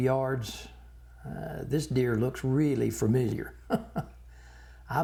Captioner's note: chuckling